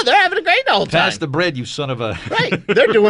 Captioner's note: laughs